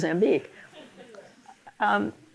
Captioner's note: polite laughter